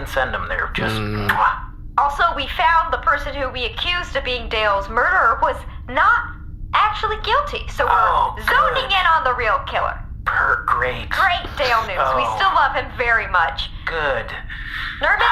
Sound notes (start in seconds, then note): 8.7 nervous